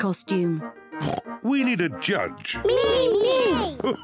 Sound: oinks; laughs

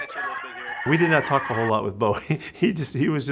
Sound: chuckles

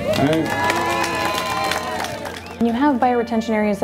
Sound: crowd applauding

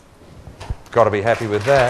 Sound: applause

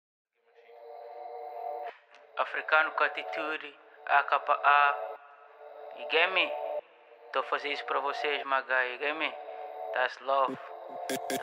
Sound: portuguese

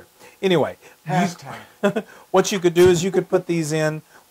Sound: laugh

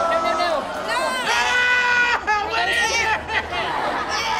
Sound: screaming; laughter

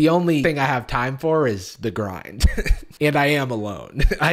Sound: laughs

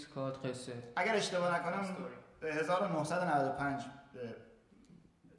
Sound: speaking in farsi

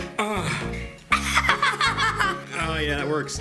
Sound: laughs

